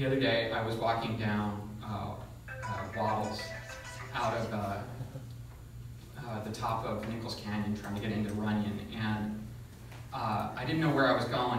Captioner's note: cell phone rings